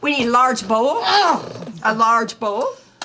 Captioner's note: Dory groans